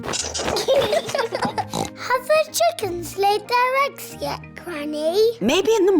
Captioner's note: both giggling; oinks